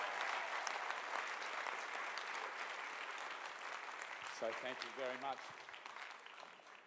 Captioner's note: applause